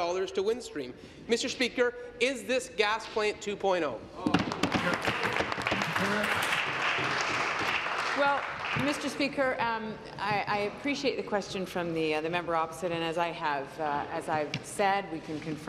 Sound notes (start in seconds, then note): 8.5 applause